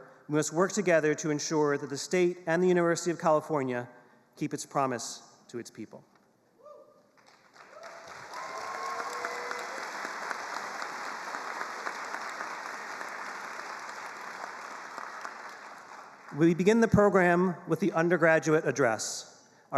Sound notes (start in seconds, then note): 7.2 attendees cheering and applauding